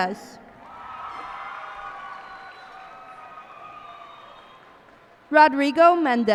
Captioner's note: cheers and applause